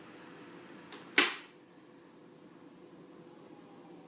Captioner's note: fan stops